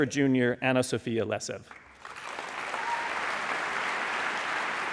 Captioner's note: audience applauding